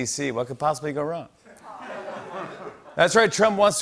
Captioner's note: laughter